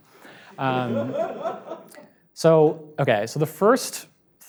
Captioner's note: audience laughs